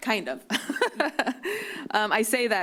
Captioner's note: laughs